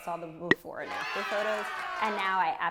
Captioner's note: cheering